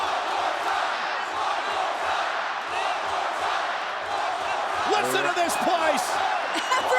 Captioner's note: applause